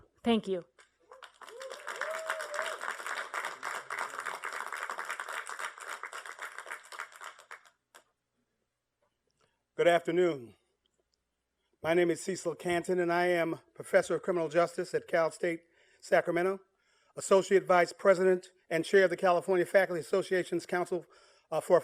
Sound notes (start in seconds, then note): 0.8 applause